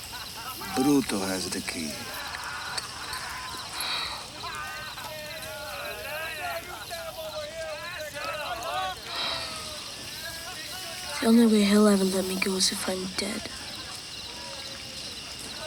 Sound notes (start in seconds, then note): 3.7 Ned sighs; 4.9 gang members laugh and yell; 9.0 Ned sighs